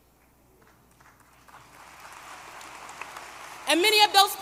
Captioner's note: applause